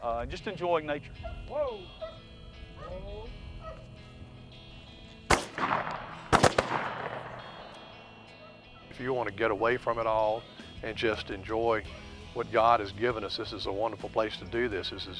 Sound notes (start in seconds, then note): 3.6 dog barking; 5.3 gun shots